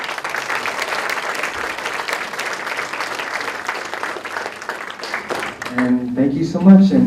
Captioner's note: applause